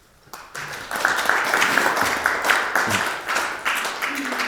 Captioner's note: audience applauding